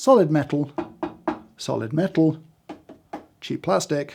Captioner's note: knocking; knocking